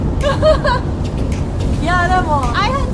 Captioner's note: mimics sobbing; speaking Japanese